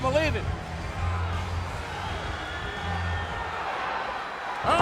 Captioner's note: crowd yelling